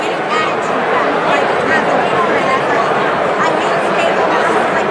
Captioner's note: crowd droning